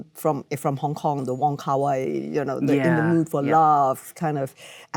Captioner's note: Michelle mumbles